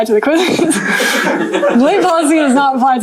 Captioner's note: laughter